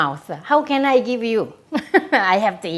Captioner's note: laughs